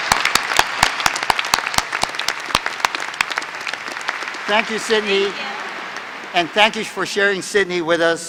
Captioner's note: applause